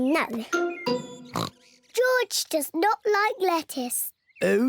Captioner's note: oinks